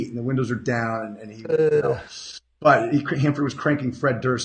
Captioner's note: groans